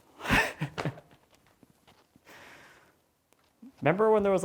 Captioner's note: laughing